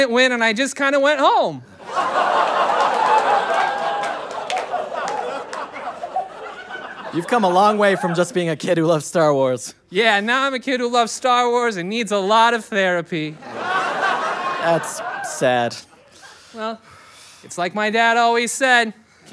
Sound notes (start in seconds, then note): 5.9 laughter; 13.3 audience laughter